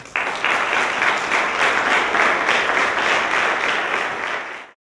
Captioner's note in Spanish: Aplausos